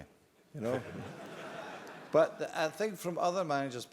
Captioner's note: laugh